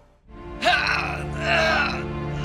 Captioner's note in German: Schmerzensschreie